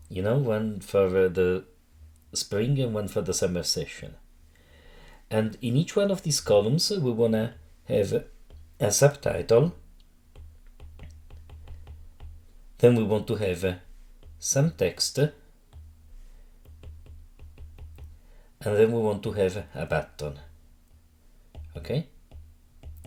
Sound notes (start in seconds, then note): 9.7 stylus tapping; 15.5 stylus tapping